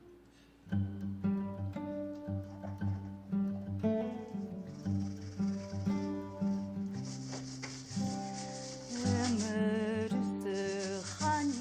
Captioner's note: sound of painting, splashing